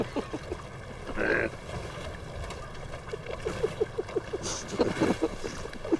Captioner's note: laughing